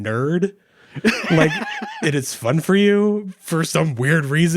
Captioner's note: laughing